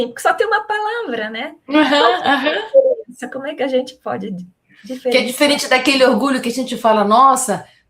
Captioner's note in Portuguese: risadas